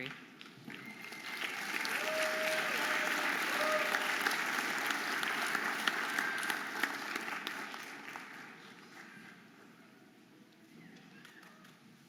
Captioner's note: audience applauding and cheering